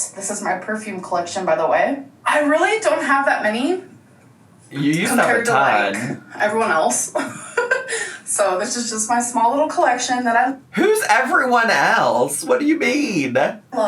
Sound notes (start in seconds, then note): 7.9 laughs